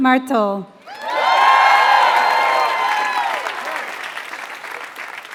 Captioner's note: applause